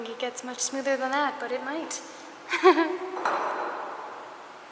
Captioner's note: laughter